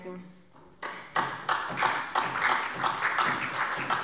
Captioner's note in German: Beifall SPD